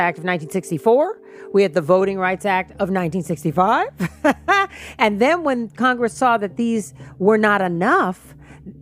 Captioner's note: laughs